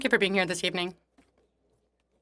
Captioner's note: speaking French